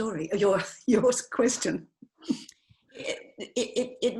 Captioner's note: laughs